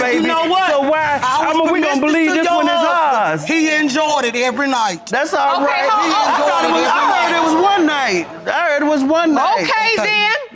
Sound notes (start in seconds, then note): 4.9 both arguing